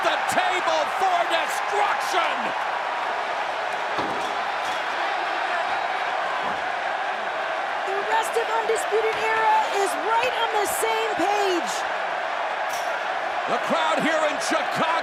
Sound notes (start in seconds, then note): 3.3 crowd cheering